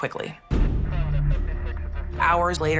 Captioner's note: police radio chatter